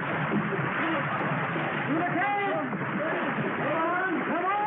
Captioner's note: water gushing